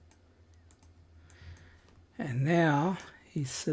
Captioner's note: silence